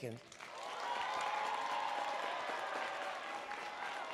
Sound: audience cheering

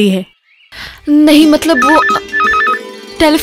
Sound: phone rings

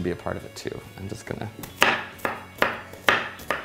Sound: knife cracks

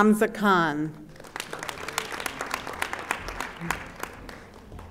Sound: audience applauding

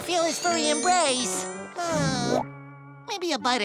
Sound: sighing

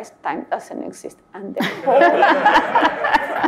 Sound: all laugh

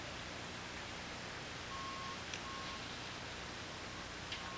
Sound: building Site Sounds - Reversing Lorry, Cement Mixers, etc

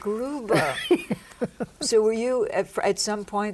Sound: laughs

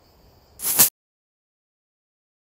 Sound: coin noises

